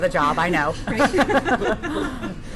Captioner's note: laughter